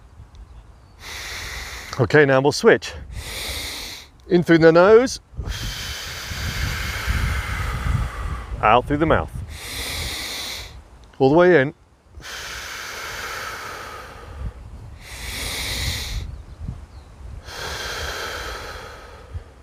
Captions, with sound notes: Okay, now we'll switch. In through the nose, out through the mouth. All the way in. [deep breathing]